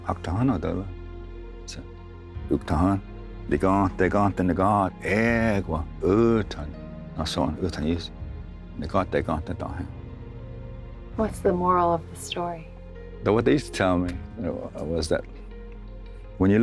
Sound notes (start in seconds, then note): 0.0 tells story in Cherokee language; 4.9 tells story in Cherokee language